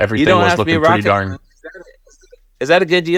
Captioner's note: audio cuts out